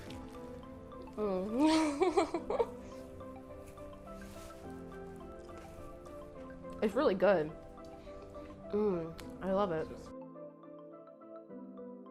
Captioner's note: laughing